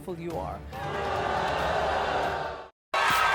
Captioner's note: crowd boos